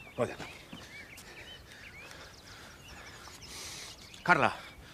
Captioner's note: breathing fast